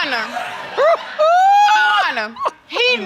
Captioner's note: hoots